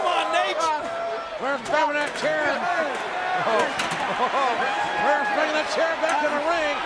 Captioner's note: laugh